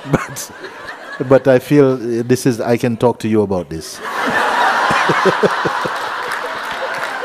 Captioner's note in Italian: risate; Risate